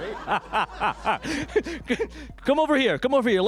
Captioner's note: laughter